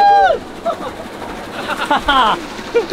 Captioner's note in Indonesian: Teriakan; Tertawa